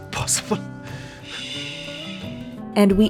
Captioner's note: Kala shushes him